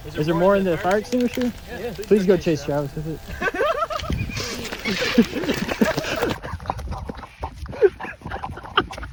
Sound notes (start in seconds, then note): 3.2 laughing